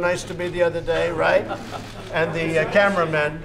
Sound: laughter

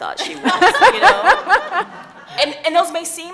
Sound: laughing

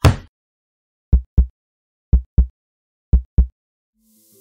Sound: heartbeat

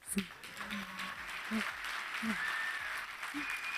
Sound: audience cheering

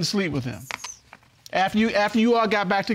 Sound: none

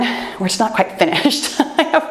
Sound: chuckles

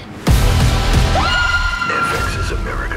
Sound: screams

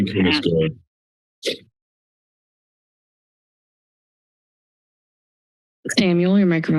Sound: silence

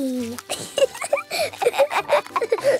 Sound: both laughing

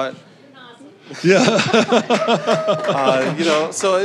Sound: audience laughing

